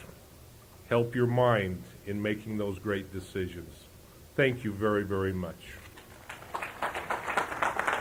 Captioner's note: applause